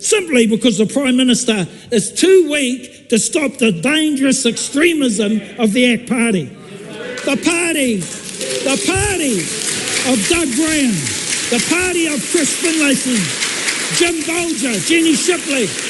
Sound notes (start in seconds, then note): 6.4 people in the gallery applaud